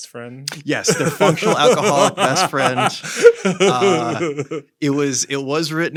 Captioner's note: laughs